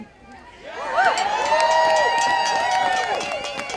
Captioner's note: audience cheering